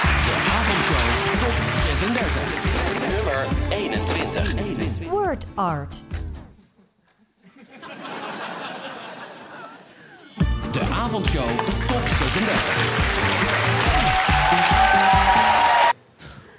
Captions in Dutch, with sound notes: De Avondshow Top 36. Nummer 21. WordArt. (gelach) De Avondshow Top 36. (applaus en gejuich)